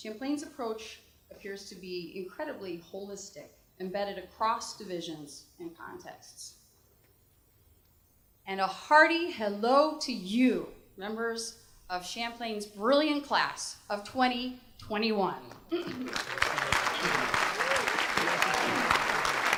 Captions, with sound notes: Champlain's approach appears to be incredibly holistic embedded across divisions and contexts. And a hearty hello to you, members of Champlain's brilliant class of 2021. (applause)